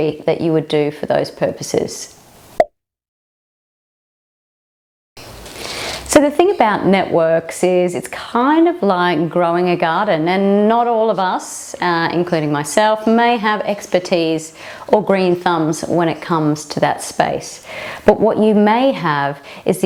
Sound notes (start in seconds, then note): 2.5 pop